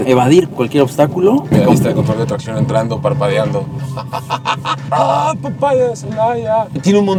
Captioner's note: laughter